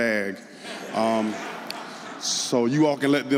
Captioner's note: audience laughing